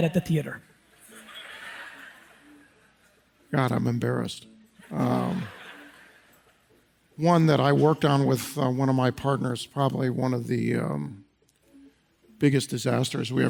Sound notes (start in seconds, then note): 1.0 audience laughs